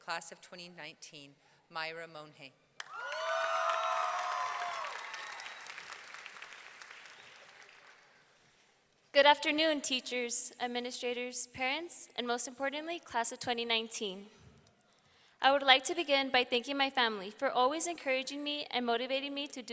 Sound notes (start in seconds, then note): 2.8 audience clapping; 2.8 audience cheering